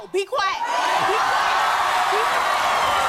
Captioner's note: audience cheering